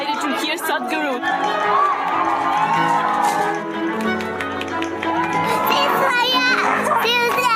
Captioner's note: cheering/Applause